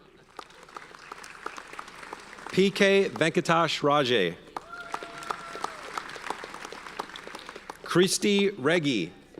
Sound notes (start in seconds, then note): 0.0 audience applauds; 4.5 audience cheers and applauds